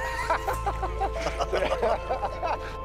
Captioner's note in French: rires